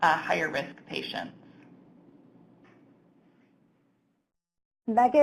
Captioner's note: silence